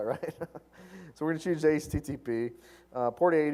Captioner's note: laugh